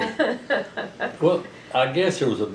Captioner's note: laughter